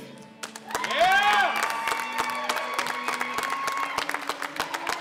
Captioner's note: cheers and applause